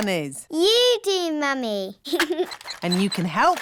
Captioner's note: giggles